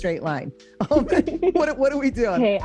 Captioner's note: both laughing